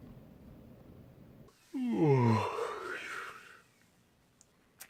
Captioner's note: yawning